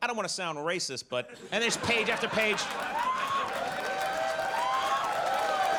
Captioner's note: audience cheers; audience applauds